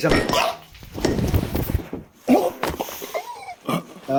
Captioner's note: bonk